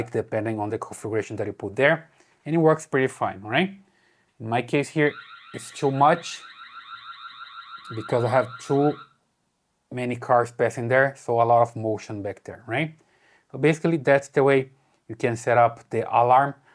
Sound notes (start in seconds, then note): 7.8 alarm beeping